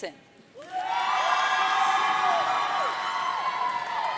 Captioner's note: audience cheering